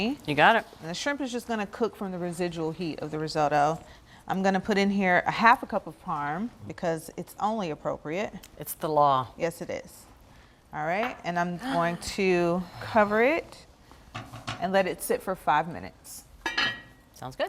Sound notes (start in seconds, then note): 13.1 Bridget gasps